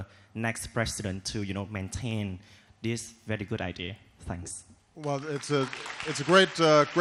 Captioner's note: applause